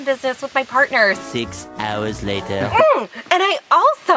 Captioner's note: voiceover